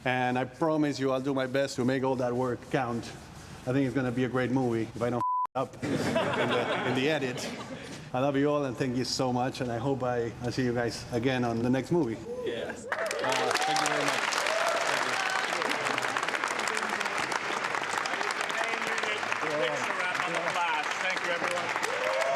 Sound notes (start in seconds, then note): 5.8 all laugh; 14.8 all cheering, applauding